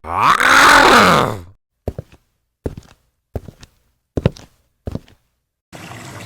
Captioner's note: menacing footsteps